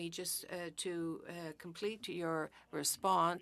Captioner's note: speaking french